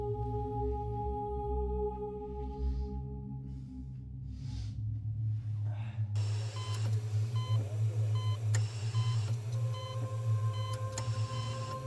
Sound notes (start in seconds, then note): 6.2 heart monitor beeping